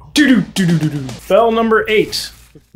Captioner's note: vocal drum imitation